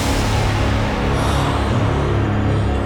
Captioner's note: gasping